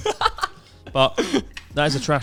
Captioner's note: laughing quickly